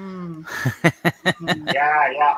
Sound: laughing

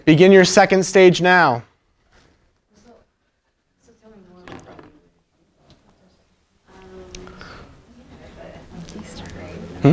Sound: chattering in the room

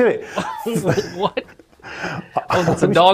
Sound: both laughing

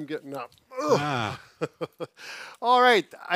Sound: groans

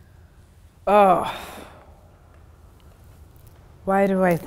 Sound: groaning

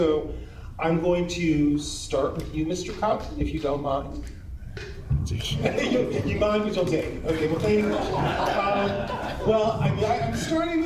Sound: laughter

